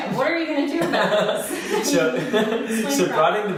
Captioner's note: both laughing